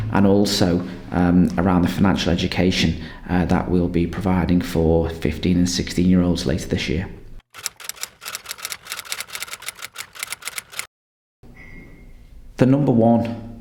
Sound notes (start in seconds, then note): 7.5 typewriter clunking